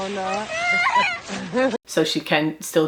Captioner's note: vocalizing